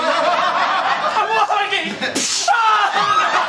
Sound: laughter; gunshot; laughter

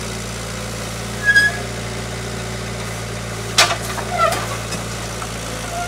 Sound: telehandler engine droning and squeaking

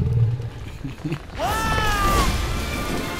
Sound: screams

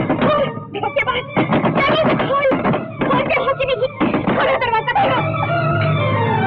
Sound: door knocks

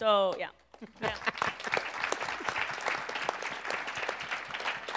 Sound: applause

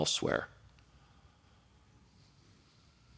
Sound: silence

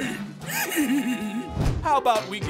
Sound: giggling

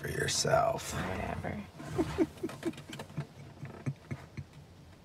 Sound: giggles

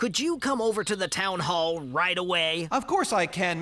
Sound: none

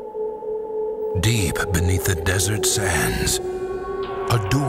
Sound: voiceover

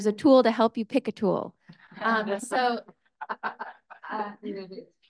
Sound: speakers laughs

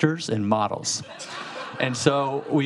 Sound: audience laughing

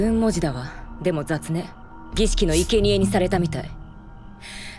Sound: scrapes

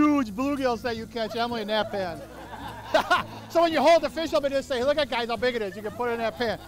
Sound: laughing

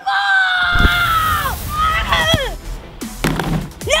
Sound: yells

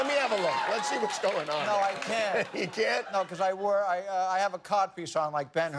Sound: laughter

